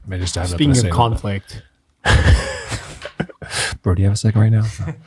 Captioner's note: friars laugh